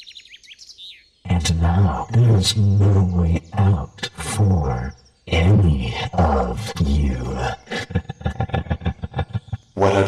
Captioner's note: dark chuckle